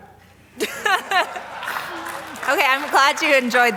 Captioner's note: everyone laughing and clapping